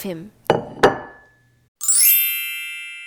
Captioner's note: dishes clatter